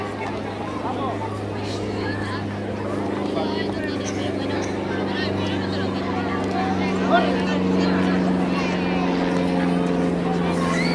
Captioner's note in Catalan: Renou ambient i avió